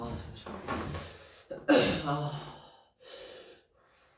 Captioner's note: clears throat